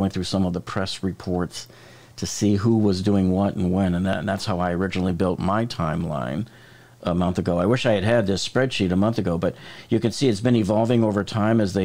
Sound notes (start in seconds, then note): none